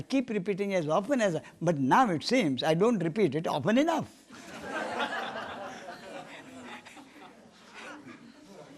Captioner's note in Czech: smích